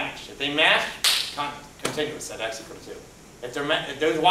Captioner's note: claps hands